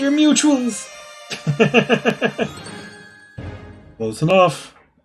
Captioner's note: friendship fanfare; laughs